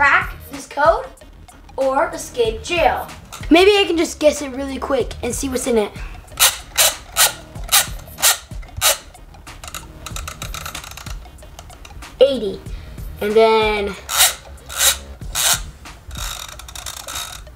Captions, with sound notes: this code or escape jail. Maybe I could just guess it really quick and see what's in it. (dial cranking) 80, and then